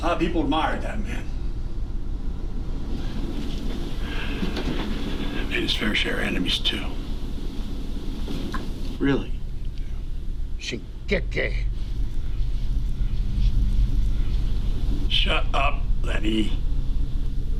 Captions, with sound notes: A lot of people admired that man. He had his fair share of enemies too. - Really? (Lenny speaks foreign language) - Shut up, Lenny.